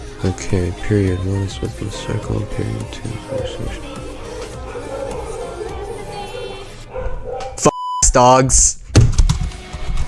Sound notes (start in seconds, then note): 4.7 dogs keep barking; 8.9 throws mouse on desk